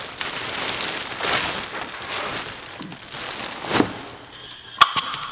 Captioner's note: plastic wrap rattling; spraying; machine clanking